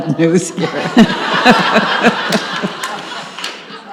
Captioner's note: audience laughs